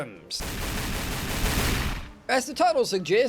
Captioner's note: shotgun noises